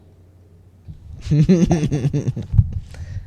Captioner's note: laugh